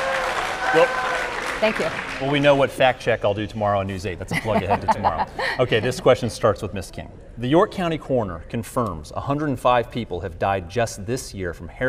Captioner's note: applause